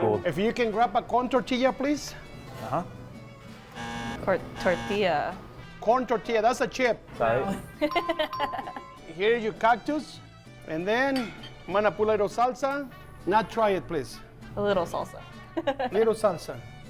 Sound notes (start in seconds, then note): 3.1 ranchera music; 7.6 giggle